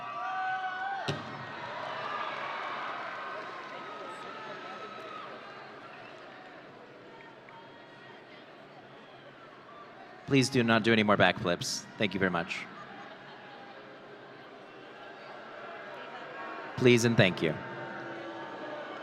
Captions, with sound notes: (audience cheering) Please do not do any more back flips. Thank you very much. (audience booing) Please and thank you.